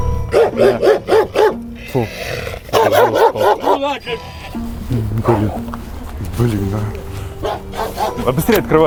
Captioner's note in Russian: лай собак